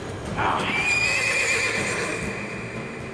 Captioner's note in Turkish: At kişneme sesi; Müzik - Gerilim